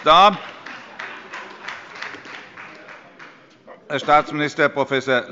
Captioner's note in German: Beifall bei der SPD